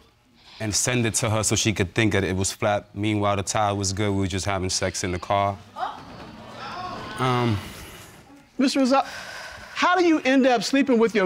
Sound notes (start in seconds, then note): 6.2 audience exclaiming